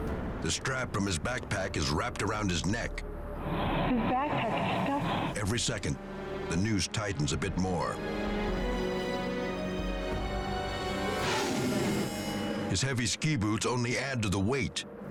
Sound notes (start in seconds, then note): 8.5 air whooshing; 8.5 pensive music